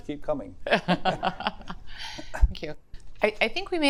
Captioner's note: audience laughs